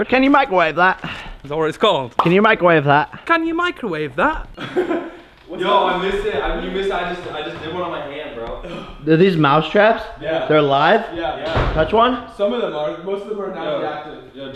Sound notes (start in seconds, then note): 4.6 giggle